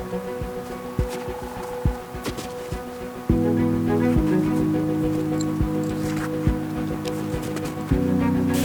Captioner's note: sound of woodpecker and footsteps